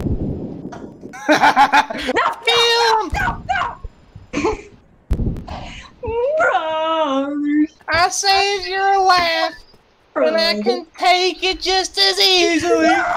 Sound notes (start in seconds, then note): 1.2 victorious laughter